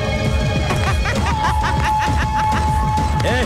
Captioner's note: Laughs